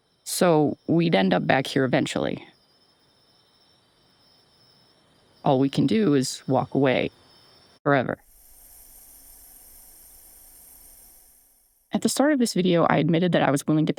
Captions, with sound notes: So we'd end up back here eventually. All we can do is walk away forever. (gas leak hiss) At the start of this video, I admitted that I was willing